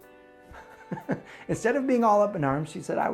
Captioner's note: chuckles